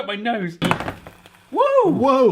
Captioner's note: toastie machine sizzling